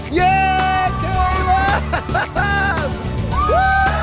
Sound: cheering

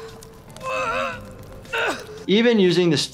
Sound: groaning

